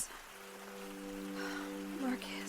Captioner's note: sighs